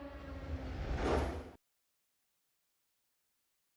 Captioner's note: air whooshing